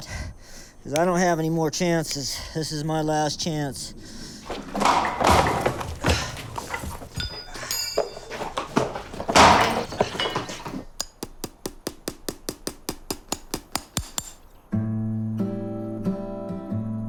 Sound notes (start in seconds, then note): 4.1 snorting; 6.8 shoe hits floor